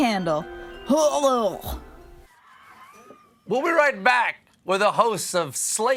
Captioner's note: gagging